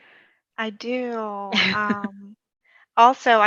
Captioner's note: giggles